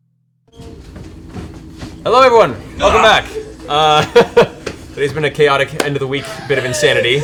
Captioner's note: laughs